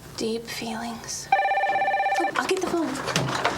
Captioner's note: phone ringing continues